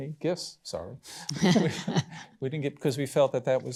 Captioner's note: laughter